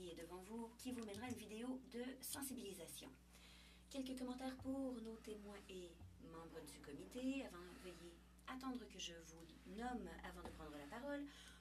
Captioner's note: speaking in French